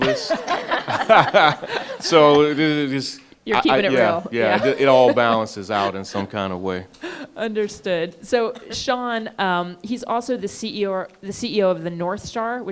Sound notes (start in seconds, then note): 0.0 all laughing; 7.0 laughing